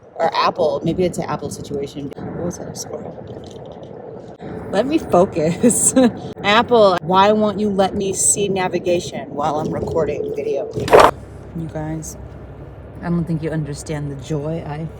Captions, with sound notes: Or Apple!...maybe it's an Apple situation. Oooh, is that a squirrel? Let me focus! APPLE! Why won't you let me see navigation (notifications) while I'm recording video? You guys, I don't think you understand the JOY I FEEL